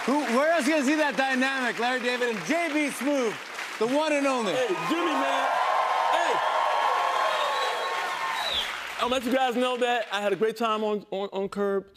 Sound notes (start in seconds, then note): 5.1 cheers and applause